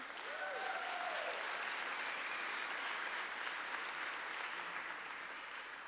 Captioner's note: audience cheers and applauds